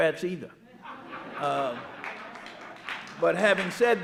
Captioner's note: audience laughing and clapping